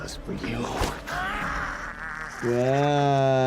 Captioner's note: person screams